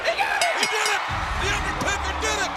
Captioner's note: bell ringing